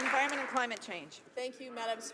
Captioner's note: some Applause